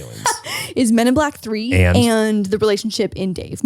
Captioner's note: laughs